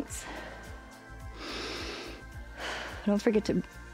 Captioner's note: inhales and exhales